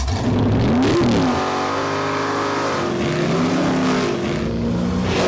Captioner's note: engines revving and roaring